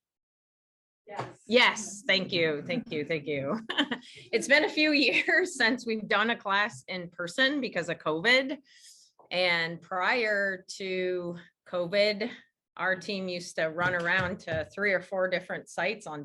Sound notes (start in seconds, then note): 2.0 several students laugh; 3.6 laughs